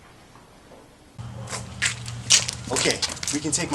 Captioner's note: door slams; feet on gravel